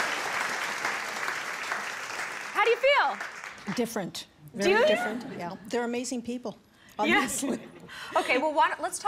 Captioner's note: applause